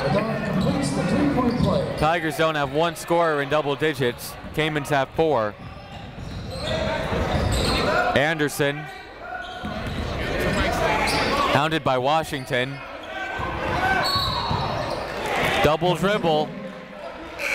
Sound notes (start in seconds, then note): 14.0 whistle